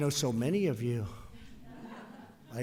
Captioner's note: laughter